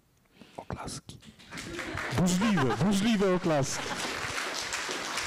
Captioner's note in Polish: Brawa. Autorka się śmieje